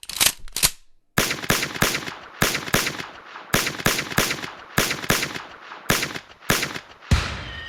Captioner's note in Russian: Пистолетные выстрелы; Выстрел из миномёта, свист снаряда